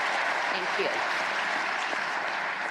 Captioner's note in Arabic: تصفيق